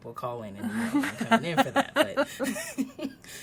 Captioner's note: laughs